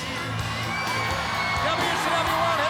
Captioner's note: crowd cheering